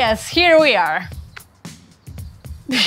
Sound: laughter

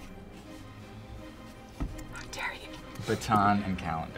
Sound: whispering

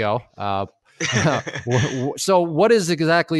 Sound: laughing

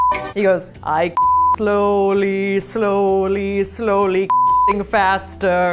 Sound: beep

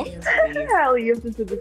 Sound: Yara laughs

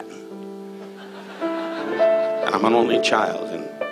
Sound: audience laughs

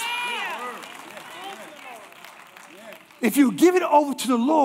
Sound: congregation applauding

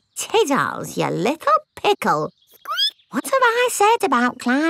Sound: squeaks

